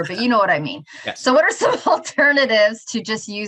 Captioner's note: both laughing; chuckles